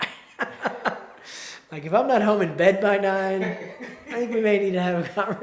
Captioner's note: chuckles